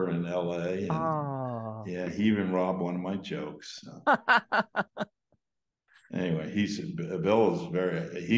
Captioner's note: laughs